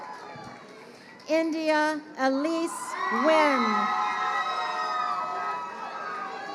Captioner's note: crowd cheering